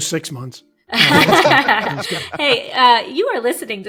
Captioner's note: laughing